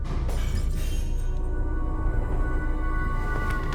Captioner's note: objects clattering and glass shattering